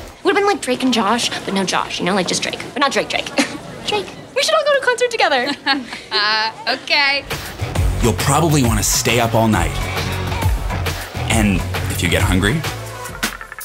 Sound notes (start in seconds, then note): 5.3 laughs